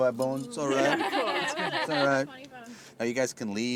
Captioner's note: laughing